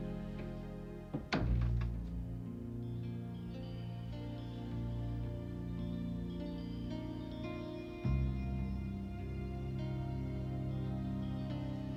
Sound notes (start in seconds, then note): 1.1 door clicks